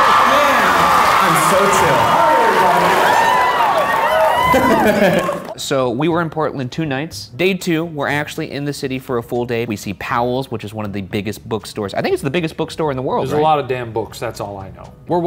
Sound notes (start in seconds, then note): 4.2 crowd cheers; 4.4 laughs